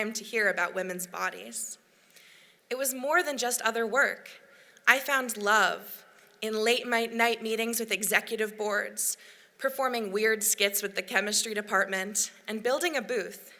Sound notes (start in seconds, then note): none